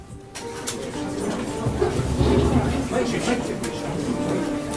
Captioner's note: reporters chattering